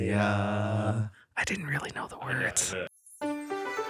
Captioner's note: whispers